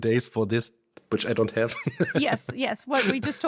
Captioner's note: laughs